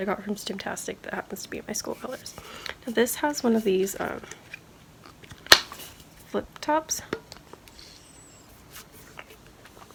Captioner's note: sips